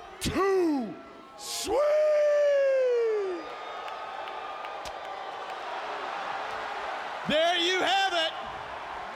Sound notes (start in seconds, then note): 3.4 attendees cheering and applauding